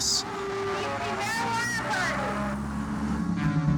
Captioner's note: yelling